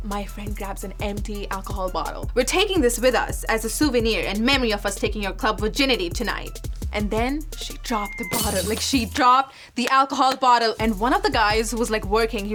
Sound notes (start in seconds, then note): 8.3 crash